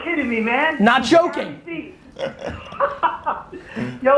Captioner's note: laughs